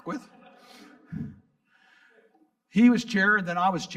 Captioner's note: audience laughing; laughs